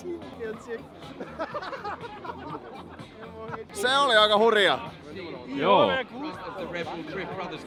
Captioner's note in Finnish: naurua